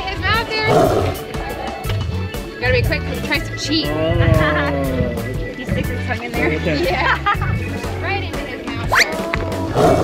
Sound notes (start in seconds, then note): 4.3 laughs; 6.6 laughs; 9.6 tiger growling effect